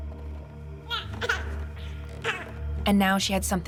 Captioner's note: baby cries